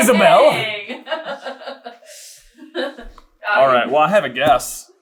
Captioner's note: laughing